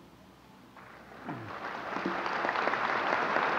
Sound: applause

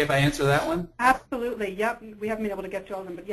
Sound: voiceover

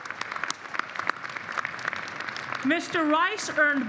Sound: applause

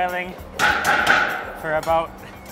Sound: tin banging

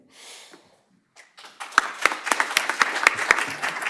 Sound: applause

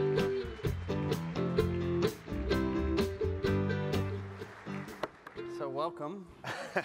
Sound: applause; laughs

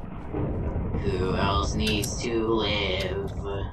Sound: singsong

